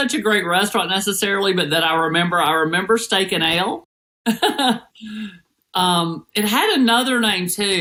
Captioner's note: laugh